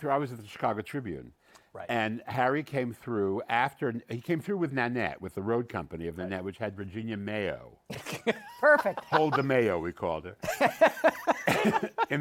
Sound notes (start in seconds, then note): 8.0 laughs; 10.4 laughter